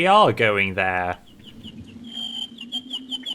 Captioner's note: chirping